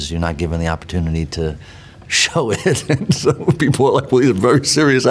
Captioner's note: laughs